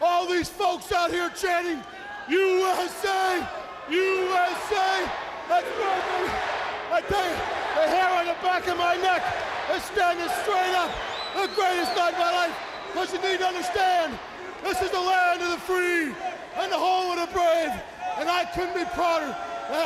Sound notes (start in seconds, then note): 4.2 crowd cheering